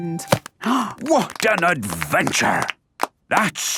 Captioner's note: applause